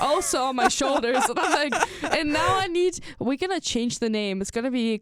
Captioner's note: laughs